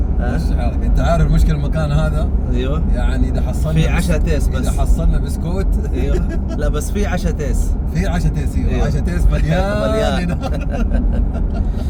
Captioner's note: Arabic